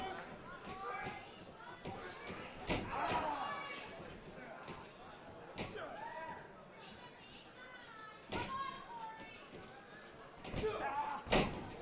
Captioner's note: crowd chatter